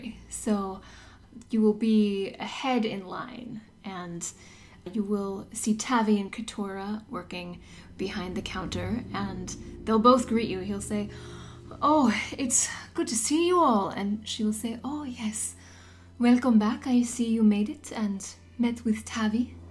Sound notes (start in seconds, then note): 11.1 light Irish accent; 14.9 French accent